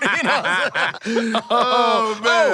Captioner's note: laughing